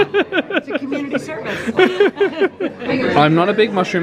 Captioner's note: laughing